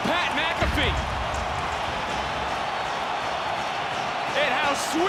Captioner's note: crowd cheers